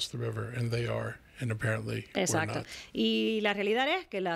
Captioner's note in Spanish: Hablando ingl\s